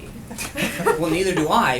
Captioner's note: laughter